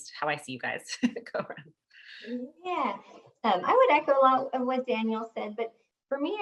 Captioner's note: laugh